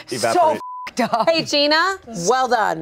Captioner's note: beep